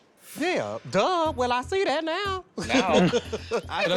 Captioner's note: laughs